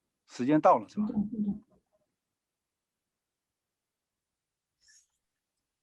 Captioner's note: speaking in foreign language